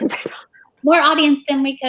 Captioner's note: laughs